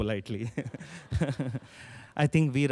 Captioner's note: chuckling